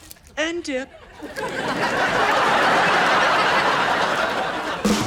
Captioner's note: audience laughs